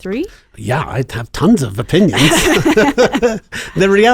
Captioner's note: laughing